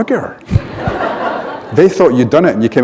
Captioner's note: laughter